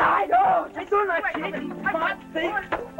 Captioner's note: Spanish spoken audio